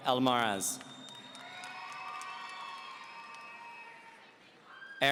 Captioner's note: audience cheering